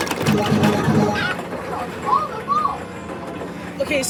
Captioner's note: clucks in his demise